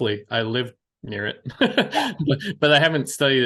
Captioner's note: laughs